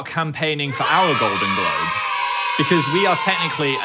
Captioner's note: children cheering